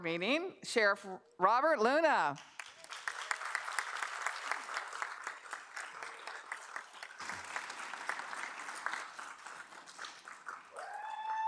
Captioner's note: applause